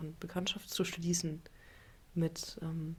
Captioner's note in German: none